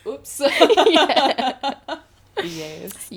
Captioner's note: laughter